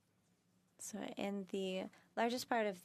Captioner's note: speaking French